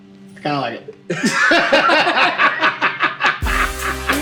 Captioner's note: both laugh; upbeat electronic music